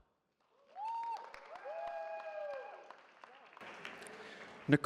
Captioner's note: cheering